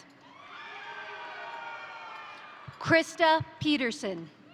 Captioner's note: crowd cheering; crowd applauding